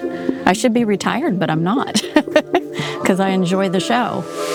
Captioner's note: laughs